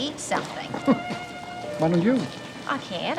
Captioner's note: chuckling